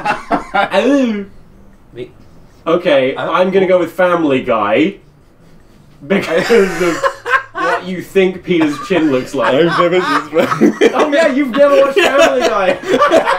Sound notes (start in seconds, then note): 0.0 laughing; 6.9 laughing